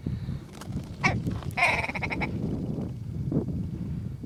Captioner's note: sound of Grouse